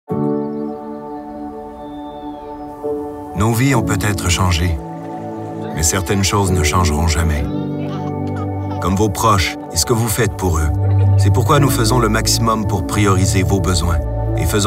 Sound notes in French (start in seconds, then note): 0.0 musique douce; 1.0 chants d'oiseaux; 2.6 bruissement du vent